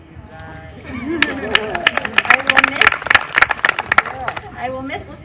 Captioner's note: applause